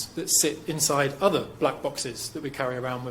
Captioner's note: none